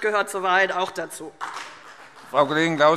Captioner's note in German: Beifall CDU und BÜNDNIS 90/DIE GRÜNEN